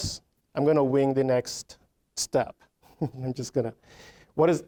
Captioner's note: chuckling